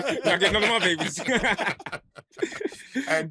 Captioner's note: laughter